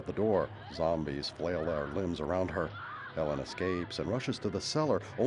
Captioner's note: screaming